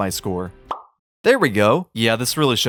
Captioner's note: pop